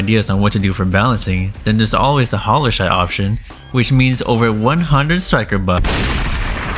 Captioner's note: gunshot